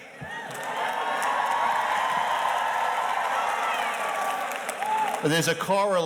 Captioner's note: audience cheers and applauds